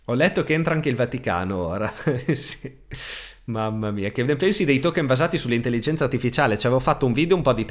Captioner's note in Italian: risate